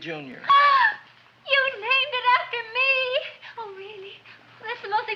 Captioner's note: gasps